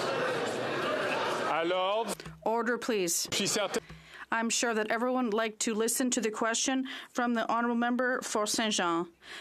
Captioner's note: chatter